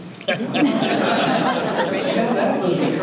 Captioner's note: audience laughter